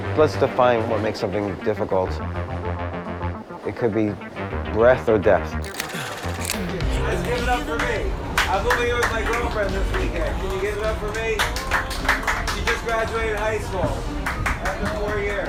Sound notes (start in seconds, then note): 5.6 camera shutters